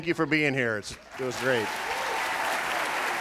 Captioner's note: applauding